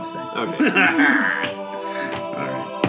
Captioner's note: laughs